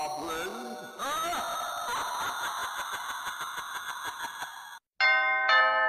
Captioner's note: evil laugh x2